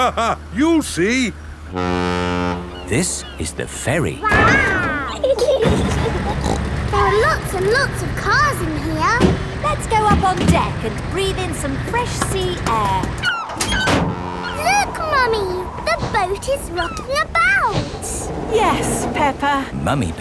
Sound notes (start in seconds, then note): 0.0 laughing; 1.7 ferry horn blows; 4.2 giggling; 5.6 snorts